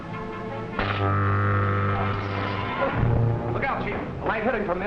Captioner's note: buzzing